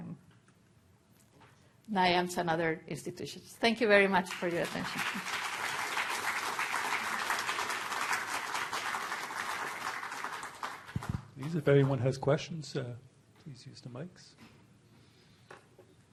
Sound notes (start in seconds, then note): 6.2 applause